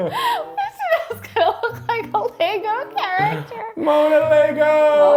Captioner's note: laughs